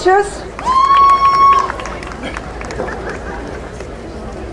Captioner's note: crowd cheering